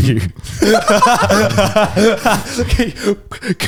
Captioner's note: all laugh